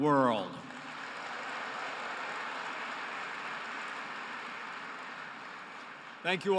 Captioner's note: applause